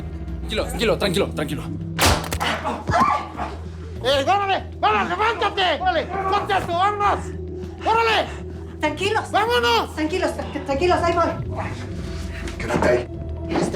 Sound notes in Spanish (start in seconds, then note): 2.0 Disparo; 2.5 Grito